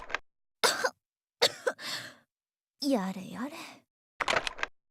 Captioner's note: cough